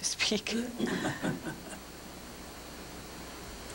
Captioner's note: laughter